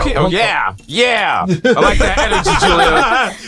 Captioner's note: laughter